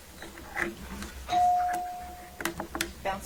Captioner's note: bell ringing